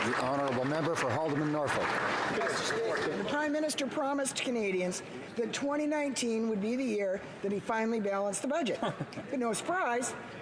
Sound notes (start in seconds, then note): 2.6 some Applause